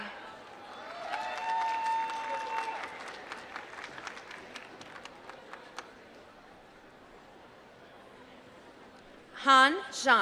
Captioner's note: applause